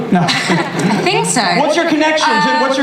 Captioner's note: laughs